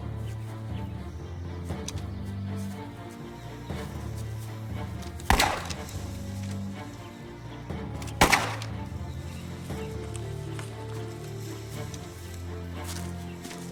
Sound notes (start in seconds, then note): 5.2 gun bangs; 7.1 suspenseful music; 8.1 gun bangs; 8.6 suspenseful music continues; 13.5 foliage rustling